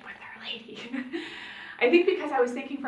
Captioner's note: giggling